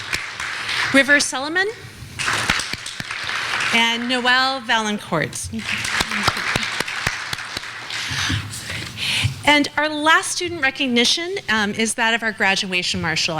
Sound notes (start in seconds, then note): 2.2 clapping